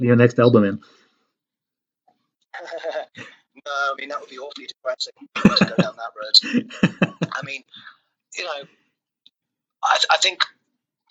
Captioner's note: laughs